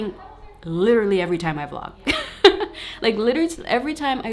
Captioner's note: laughs